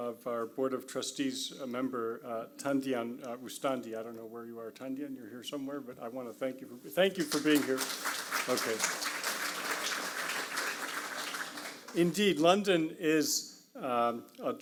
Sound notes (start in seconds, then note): 7.2 audience applauds